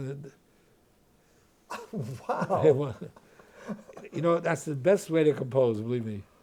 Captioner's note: laughs